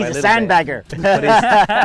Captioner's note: laughing